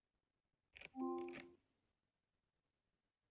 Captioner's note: device chimes